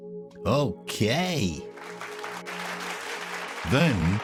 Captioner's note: hands clapping